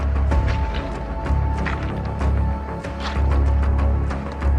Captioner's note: pebbles crunching